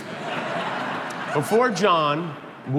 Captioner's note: crowd laughing